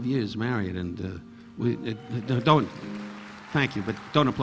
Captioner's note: audience applauding